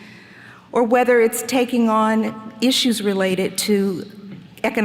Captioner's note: none